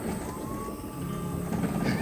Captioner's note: ambulance shaking bumpy road